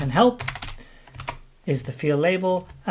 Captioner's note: keyboard keys clank